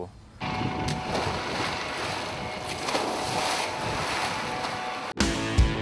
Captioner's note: water splashing